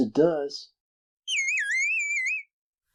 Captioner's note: beeps